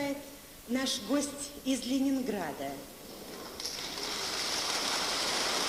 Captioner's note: applause